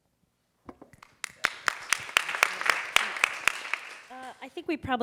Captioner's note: audience applauding